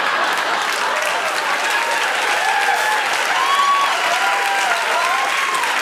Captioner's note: cheers and applause